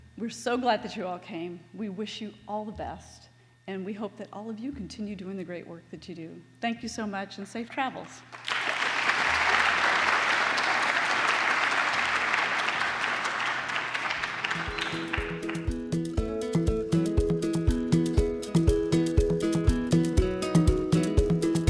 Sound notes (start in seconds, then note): 8.2 applause